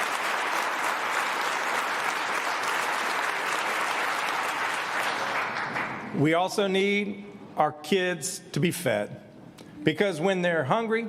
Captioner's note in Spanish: aplausos